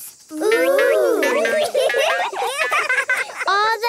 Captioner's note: laughing